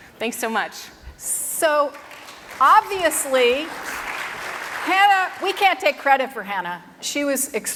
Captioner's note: applause